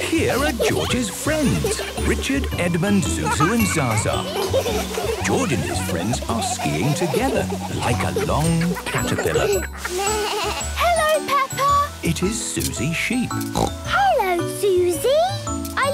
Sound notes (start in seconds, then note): 9.9 bleating; 13.5 snorting